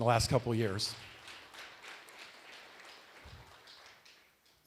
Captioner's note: applause